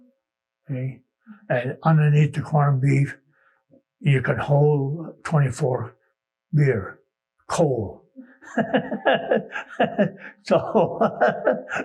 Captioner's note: laughing